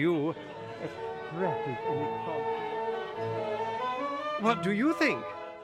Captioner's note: muted mumbling & party noises